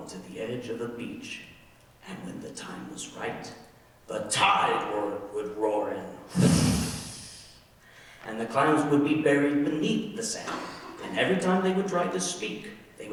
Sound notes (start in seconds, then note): 6.3 roaring